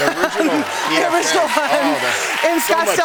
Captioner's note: cheering and applause